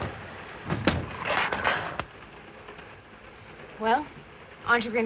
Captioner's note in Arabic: يغلق الباب وتنزلق الستارة للأسفل